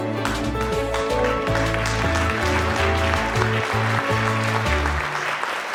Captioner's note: audience applauding